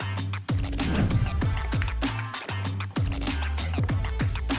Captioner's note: transition whooshes